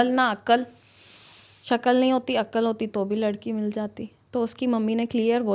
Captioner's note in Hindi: नाक से की जाने वाली आवाज़